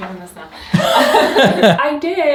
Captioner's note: laughing